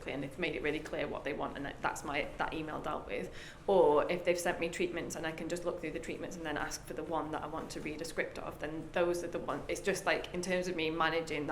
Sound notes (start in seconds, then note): none